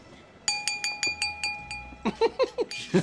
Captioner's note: clink, clink, clink